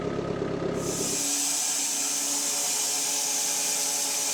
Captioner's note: saw whirring